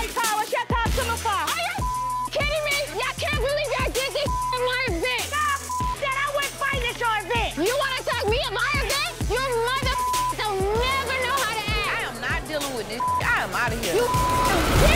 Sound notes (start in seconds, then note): 4.0 beep; 10.4 beep